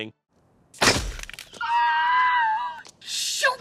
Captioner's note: metal snapping